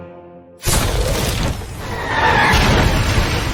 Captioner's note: cannon Bombardment